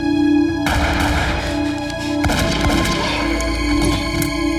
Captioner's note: gun shots firing